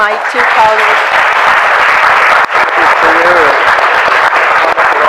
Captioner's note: audience applauds